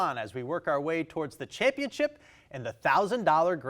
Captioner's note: none